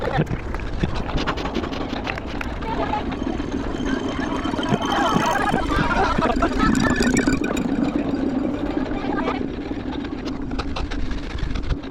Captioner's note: wind blowing